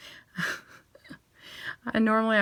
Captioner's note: chuckling